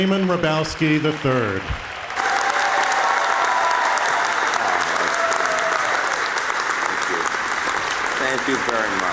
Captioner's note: applause